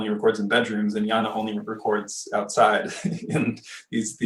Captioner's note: laughing